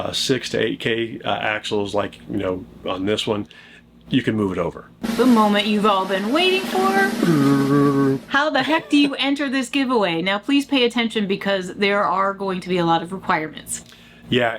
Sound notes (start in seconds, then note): 7.0 mimicking drum roll